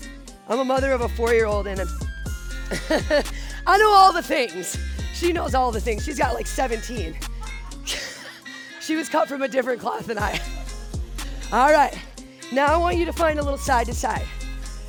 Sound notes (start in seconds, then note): 7.2 laughter